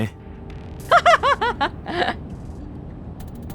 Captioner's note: laughs